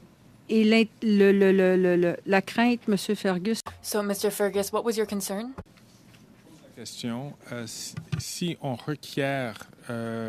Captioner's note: speaking French